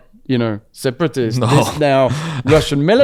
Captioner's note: laughs